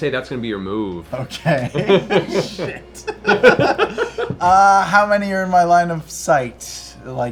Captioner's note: laughs